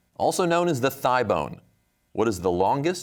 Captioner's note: none